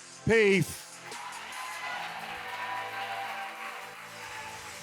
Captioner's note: applause